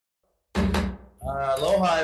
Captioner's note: gavel banging